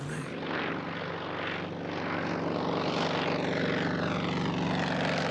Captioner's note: plane engine roaring